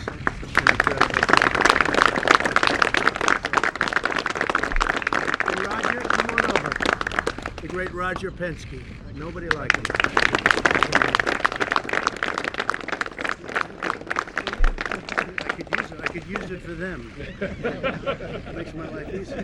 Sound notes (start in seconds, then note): 0.0 applause; 17.0 laughter